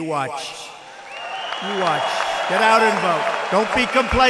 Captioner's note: applause